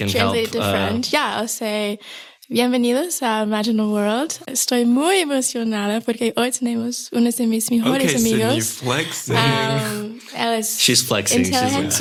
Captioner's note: foreign language 00:16:31